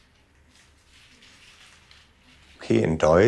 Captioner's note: quiet rustling